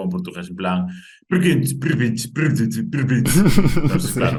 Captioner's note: imitates European Portuguese